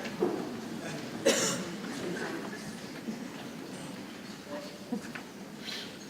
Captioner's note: people chattering softly